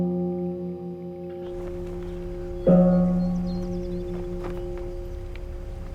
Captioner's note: gong sounding and birds chirping